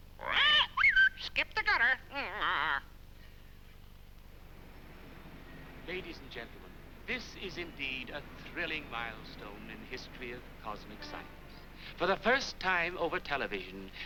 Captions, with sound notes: Skip the gutter [parrot squaking] Ladies and gentlemen, this is indeed a thrilling milestone in the history of cosmic science. For the first time over television.